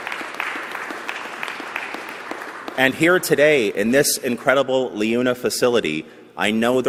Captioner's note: applause